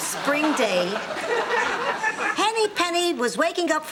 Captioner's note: audience laughing